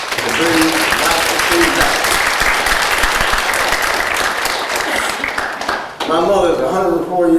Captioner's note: applause